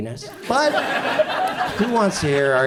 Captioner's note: audience chuckles